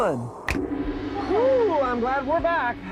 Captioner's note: finger snaps; gong